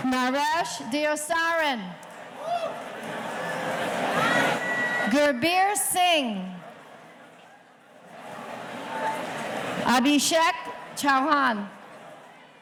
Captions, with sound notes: Naresh Diosarin. (audience cheering) Girbir Singh. Abishek Chouhan.